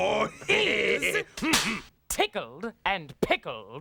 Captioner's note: Cleo cracks pointer